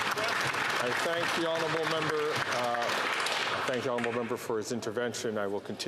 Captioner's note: some Applause